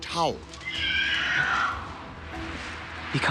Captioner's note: screeching